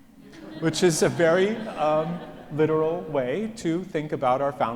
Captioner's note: audience laughs